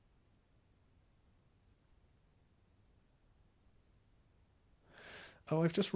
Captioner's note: silence